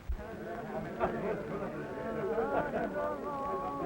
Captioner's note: people chattering